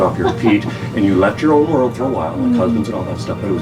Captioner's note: laughing